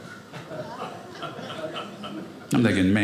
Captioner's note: audience laughing